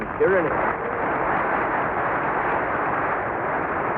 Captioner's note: applause